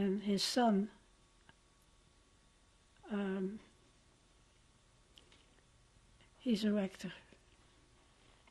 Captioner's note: pauses for 6 seconds